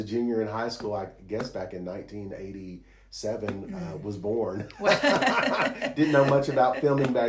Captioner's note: laughs